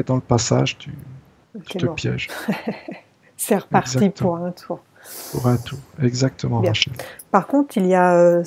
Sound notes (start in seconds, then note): 3.7 laughs